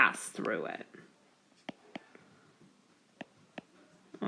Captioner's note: keyboard Tapping